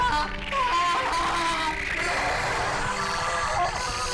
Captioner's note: screaming; dramatic music